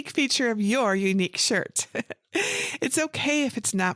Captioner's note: laughs